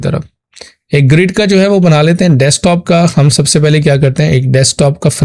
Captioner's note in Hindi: नाक से की जाने वाली आवाज़